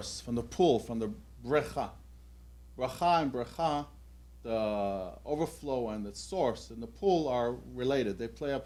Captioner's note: hebrew